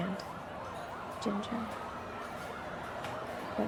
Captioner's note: the sound of police sirens